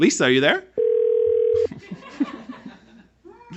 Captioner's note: phone ringing